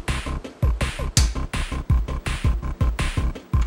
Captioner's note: snap; humm